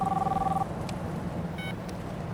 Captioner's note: phone beeps on